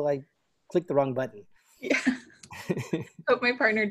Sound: laughter

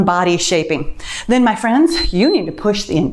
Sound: timer beeps

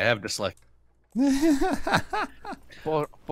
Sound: laughs

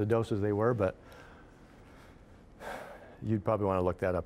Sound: sighing

